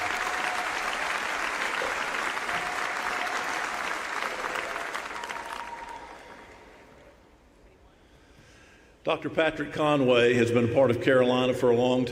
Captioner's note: applause